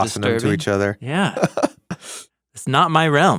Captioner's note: chuckles